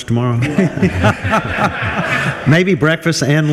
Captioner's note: group laughs